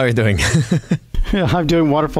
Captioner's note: laughs